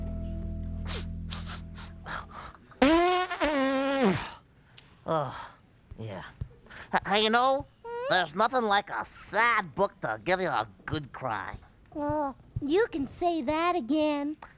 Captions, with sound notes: ( sniffling ) ( blows nose noisily ) OH, YEAH... HEY, YOU KNOW... THERE'S NOTHING LIKE A SAD BOOK TO GIVE YOU A GOOD CRY. OH, YOU CAN SAY THAT AGAIN.